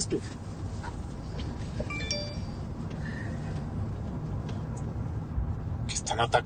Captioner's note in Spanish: Sonido de mensaje entrante